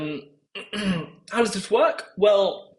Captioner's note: cough